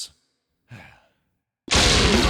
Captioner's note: sigh